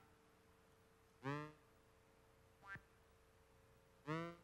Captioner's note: slow beeps